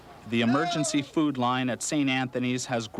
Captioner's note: voiceover